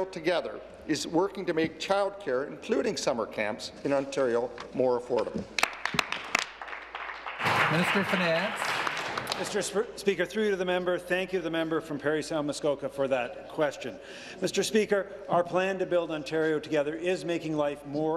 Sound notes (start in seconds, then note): 9.0 applause